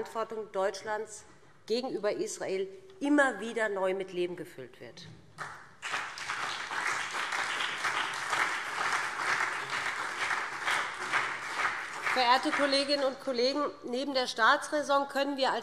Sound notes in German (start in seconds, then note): 5.3 Beifall BÜNDNIS 90/DIE GRÜNEN und CDU